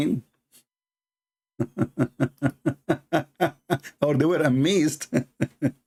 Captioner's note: Ketawa; Ketawa